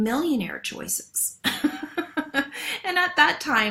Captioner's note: laughs